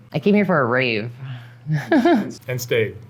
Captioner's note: chuckles